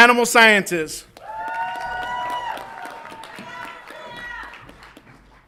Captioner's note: audience applauds and cheers